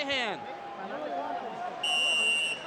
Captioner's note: whistle blows